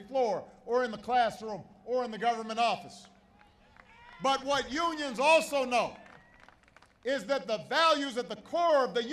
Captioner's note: applause